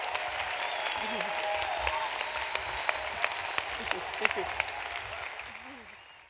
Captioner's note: applause